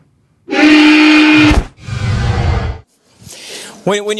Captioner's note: roars